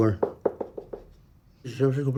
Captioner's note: knocking on chair